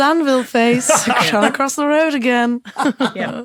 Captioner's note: group laughing